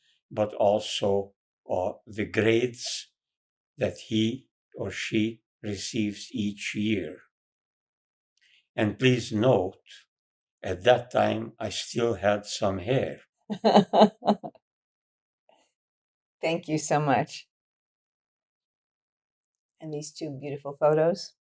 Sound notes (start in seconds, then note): 13.5 laughing